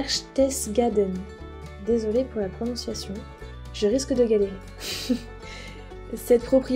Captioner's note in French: rires